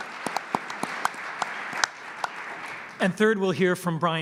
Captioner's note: applause